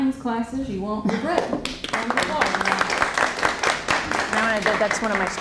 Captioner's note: applause